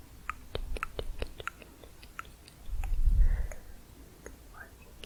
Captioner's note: tongue clicking